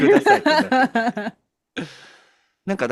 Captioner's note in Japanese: 笑い